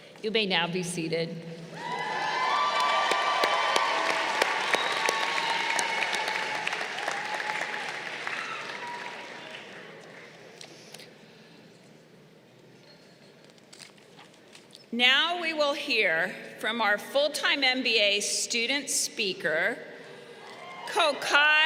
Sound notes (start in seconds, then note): 1.6 crowd cheering